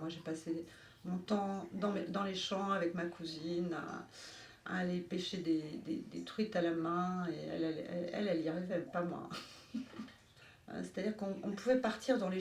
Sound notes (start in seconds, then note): 9.4 chuckle